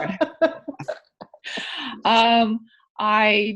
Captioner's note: laughing